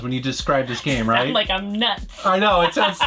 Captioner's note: laughs